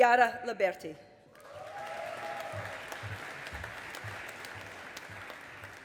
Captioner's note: audience applauding